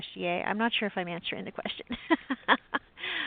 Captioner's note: laughs